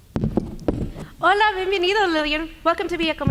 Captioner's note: speaking native language